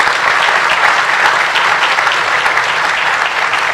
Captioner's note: applause